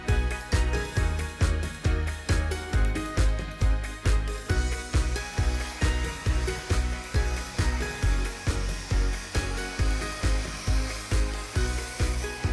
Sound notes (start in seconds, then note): 0.2 pleasant music continues; 7.8 blower whirring